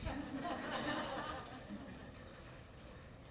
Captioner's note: laughter